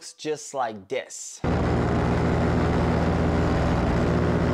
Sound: engine revving

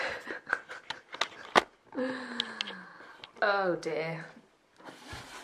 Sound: tired laugh

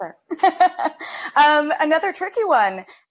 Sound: laughs

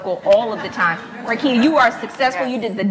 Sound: laughs

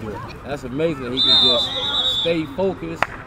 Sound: whistle blows

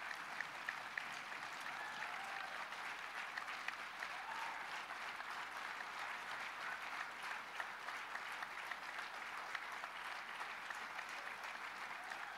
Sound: applause

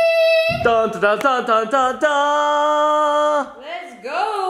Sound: imitates triumphant music

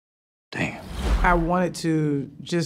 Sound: whooshing

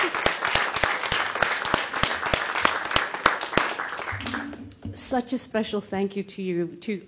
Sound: applause

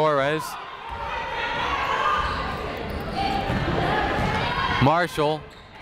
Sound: people shouting in the crowd

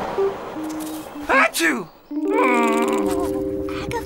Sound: train clacks; sneezes; groans

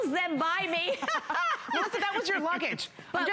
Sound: laughter

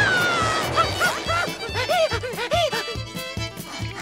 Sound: gasping

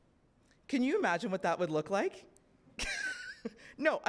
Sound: laughs

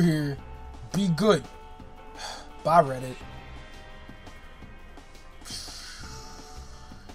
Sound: sigh

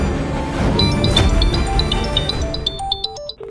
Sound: phone rings

